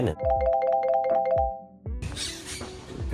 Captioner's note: phone ringing